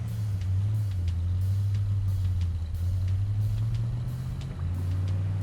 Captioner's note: motor car whirring